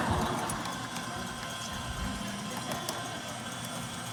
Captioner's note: laughter